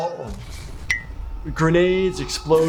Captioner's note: missiles exploding